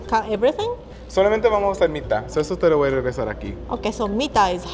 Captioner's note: speaking Spanish